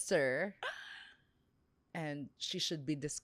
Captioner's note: gasps